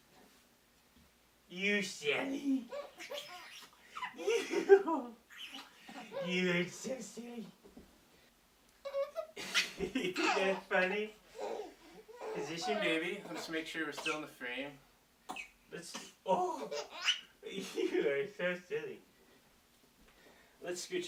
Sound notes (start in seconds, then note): 2.5 baby laughing; 3.0 kissing; 4.0 dad laughing; 8.8 baby cooing and laughing; 8.9 dady laughing; 15.2 baby coughing; 16.6 baby squealing with laughter